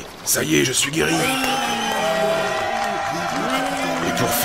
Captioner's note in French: Applaudissements